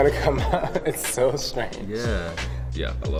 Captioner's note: chuckling